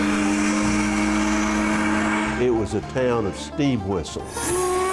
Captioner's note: steam whistling